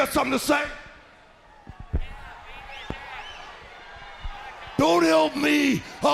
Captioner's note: crowd cheering